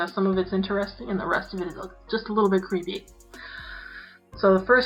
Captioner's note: deep inhale